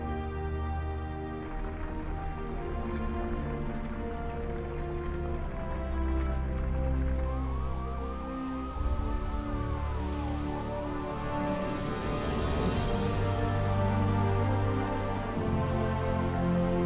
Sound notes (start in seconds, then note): 0.3 uplifting music; 6.2 fire crackling; 10.3 sirens blaring; 13.5 uplifting music